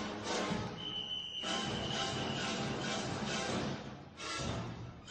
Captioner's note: whistle blowing